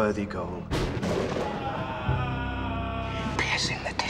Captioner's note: man screams